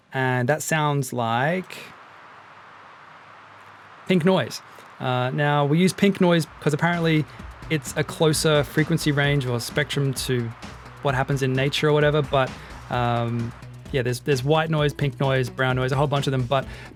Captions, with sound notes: and that sounds like... [PINK NOISE] pink noise. We use pink noise, because apparently it's a closer frequency response to what you might find in nature. There's white noise, pink noise, brown noise etc...